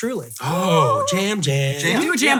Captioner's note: gasping